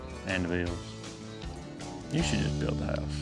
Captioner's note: giggles